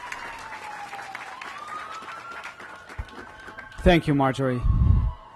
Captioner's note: applause